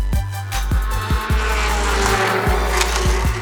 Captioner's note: engine noise